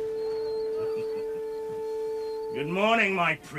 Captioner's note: chuckling